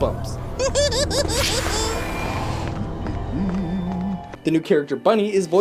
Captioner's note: Slappy laughs